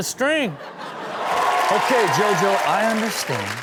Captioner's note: crowd laughs; crowd cheers